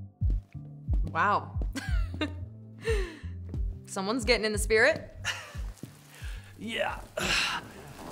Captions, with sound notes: - Wow. (laughs) Someone's getting in the spirit. - (chuckles) Yeah.